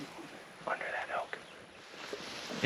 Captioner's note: whispering